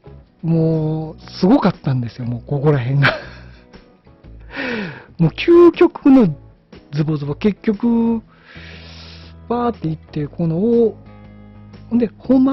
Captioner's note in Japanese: 笑い